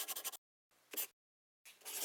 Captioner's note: the sound of paper and pencil as the logo appears